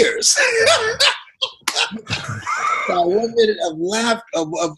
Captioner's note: both laughing